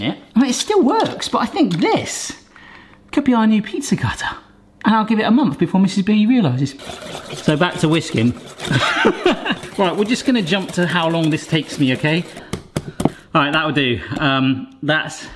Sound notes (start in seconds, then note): 8.6 laughing